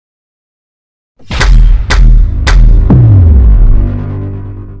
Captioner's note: dramatic clicking